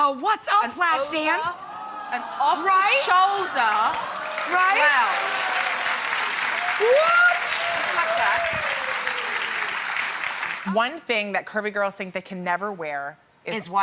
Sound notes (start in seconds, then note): 4.8 applause and cheering